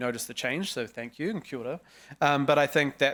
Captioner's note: speaking foreign language